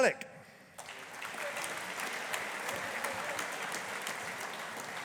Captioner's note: audience applauding